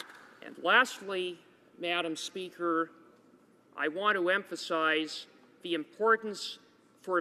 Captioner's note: applause